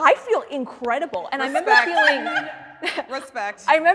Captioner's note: loud laughter